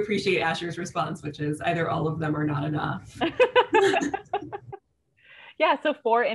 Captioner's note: laughter